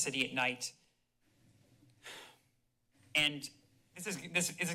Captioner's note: sighs